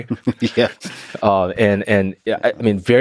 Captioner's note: laughs